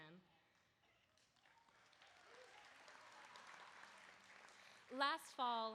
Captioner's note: applause